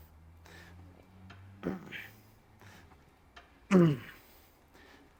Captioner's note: breathing